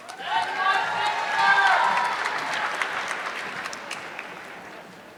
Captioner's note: audience clapping